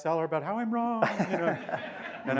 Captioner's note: laughter